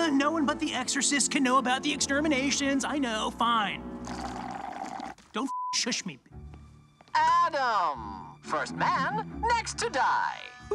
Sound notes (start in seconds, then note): 4.0 Adam slurps drink; 5.5 beep